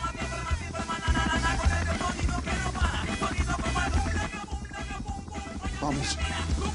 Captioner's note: Sonido del helicóptero